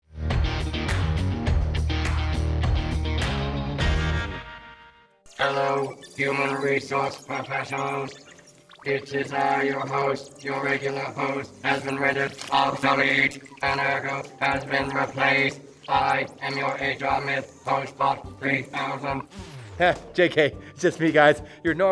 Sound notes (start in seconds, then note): 0.2 upbeat music plays; 19.2 robot powers down